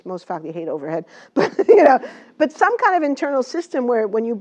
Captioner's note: laugh